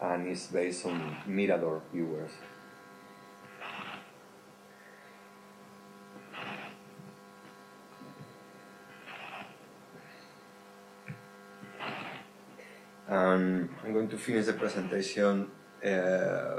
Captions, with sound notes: and it's based on Mirador viewers. (static buzzing continues) And I'm going to finish the presentation